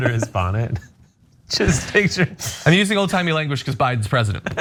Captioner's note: laugh; laugh